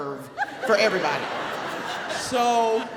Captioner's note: audience laughs